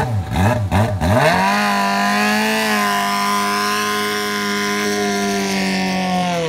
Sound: motorcycle engine accelerating

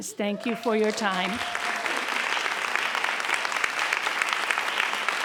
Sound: audience applauds

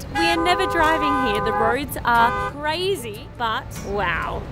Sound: horns honking

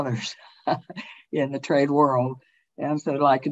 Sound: chuckles

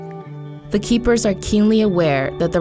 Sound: voiceover

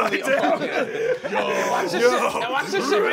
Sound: laughter

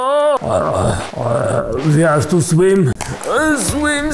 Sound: drowning noises

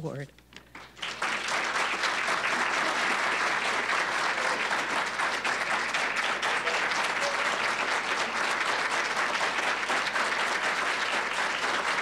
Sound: applause

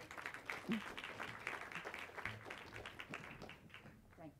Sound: clapping

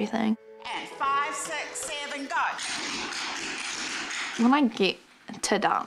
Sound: tap shoes patter

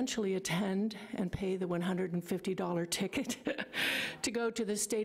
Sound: laughs

